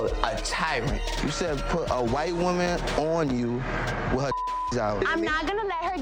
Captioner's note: beeps